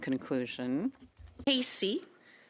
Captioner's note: speaking French